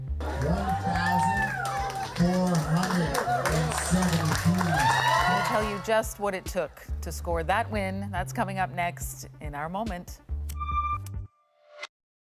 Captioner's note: applause